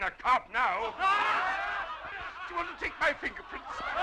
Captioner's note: crowd laughing